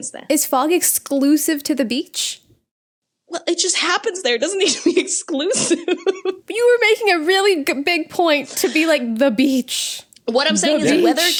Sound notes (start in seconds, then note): 6.1 laughs